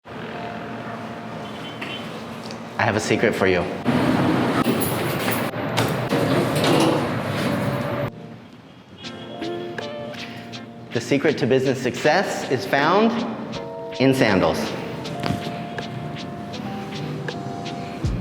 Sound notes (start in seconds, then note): 3.9 elevator door cranks; 9.4 upbeat music; 15.5 upbeat music